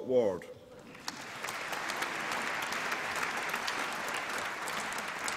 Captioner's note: applause